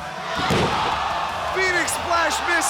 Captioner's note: crowd exclaiming